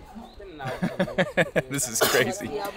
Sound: laughing

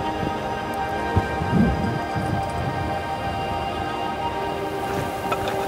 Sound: atmospheric notes resonate; wind whistling around the mountain; metal ice axe scraping on rock

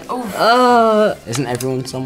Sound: groans

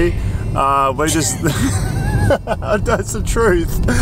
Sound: mumbles; both laughing

